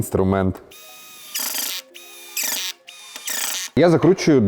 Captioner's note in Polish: dźwięk wkrętaki